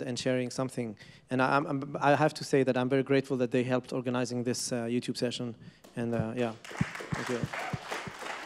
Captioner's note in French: Applaudissements